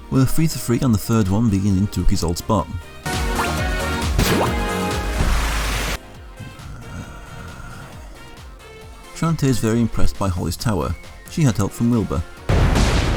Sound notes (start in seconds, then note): 6.3 grumble